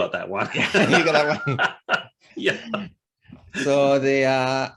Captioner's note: both laugh